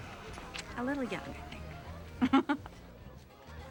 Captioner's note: chuckles